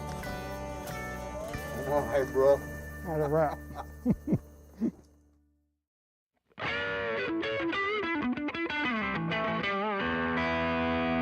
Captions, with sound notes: - Thanks, Bro. - That's a wrap. (laughs) (rock music)